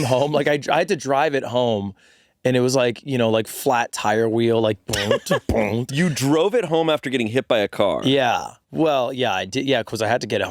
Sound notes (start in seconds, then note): 4.8 groaning noises